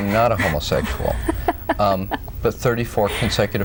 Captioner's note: laughs